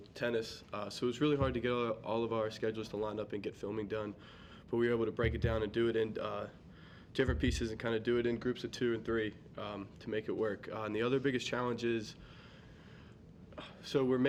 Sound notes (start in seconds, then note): none